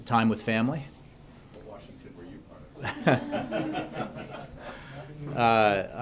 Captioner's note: laughter